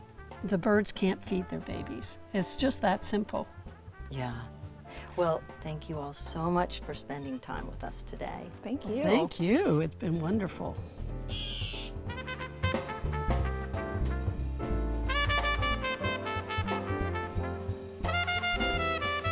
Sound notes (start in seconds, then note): 11.3 bird chirping; 12.5 jazz music